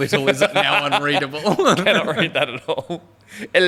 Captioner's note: laughing